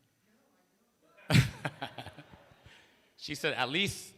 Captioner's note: laughter